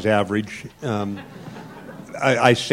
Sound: laughter

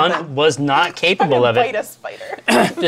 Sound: laughs

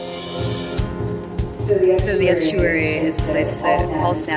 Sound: echoing

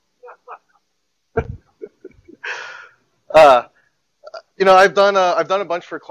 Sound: laughter

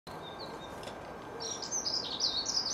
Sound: birds Singing

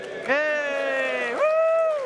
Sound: applause

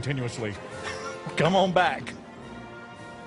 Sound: laughter

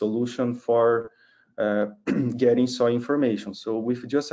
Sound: clears throat

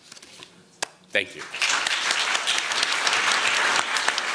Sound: applause

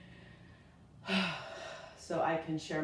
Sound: exhales

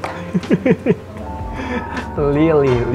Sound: laughs

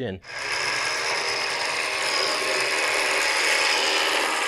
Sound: winch operating

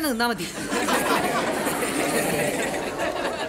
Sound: students laughing

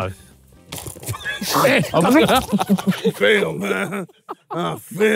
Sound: all laughing

